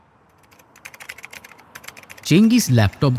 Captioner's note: keyboard